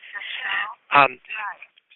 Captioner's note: background announcement